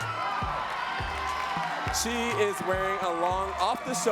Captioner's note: audience cheering and clapping